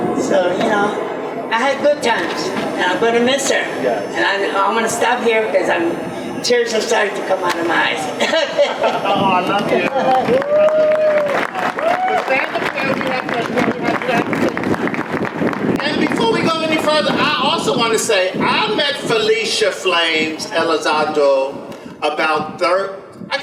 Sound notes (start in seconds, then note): 8.1 laughs; 13.0 audience applause